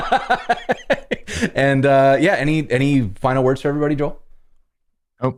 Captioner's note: laughter